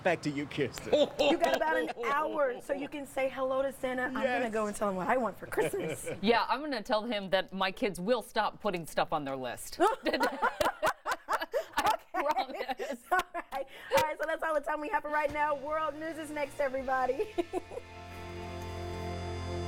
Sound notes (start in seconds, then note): 7.6 laughter; 13.4 laughter